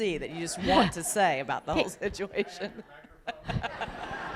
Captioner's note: laughter